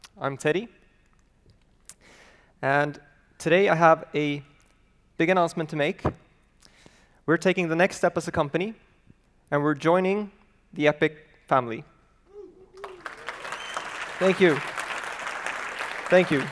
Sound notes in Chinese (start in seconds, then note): 12.7 鼓掌